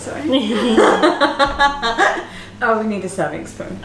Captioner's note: both laughing